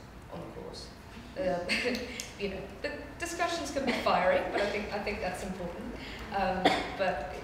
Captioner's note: chuckles